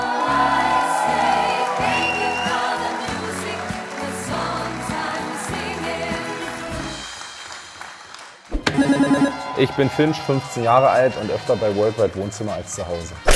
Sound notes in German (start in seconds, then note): 4.2 Applaus, Jubel